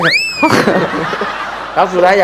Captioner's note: laughing